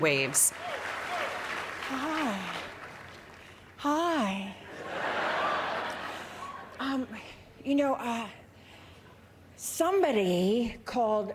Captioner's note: applause